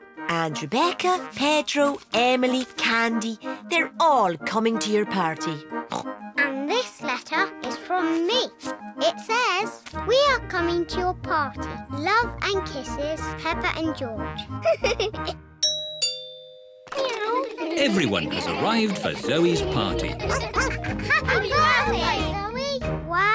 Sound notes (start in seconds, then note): 5.8 oinks; 14.6 giggles; 15.6 doorbell